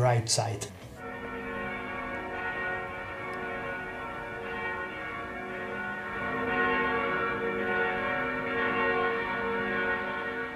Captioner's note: bells ringing